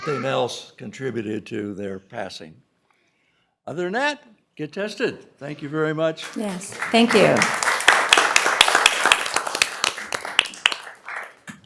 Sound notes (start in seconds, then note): 10.3 applause